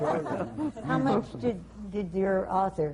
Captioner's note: laughter